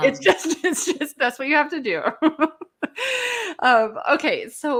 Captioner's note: laughs